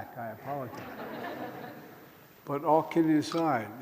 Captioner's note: laughter